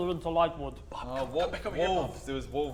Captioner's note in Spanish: Susurro